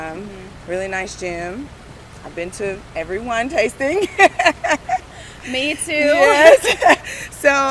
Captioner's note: laughs